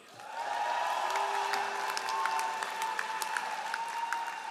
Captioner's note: all applauding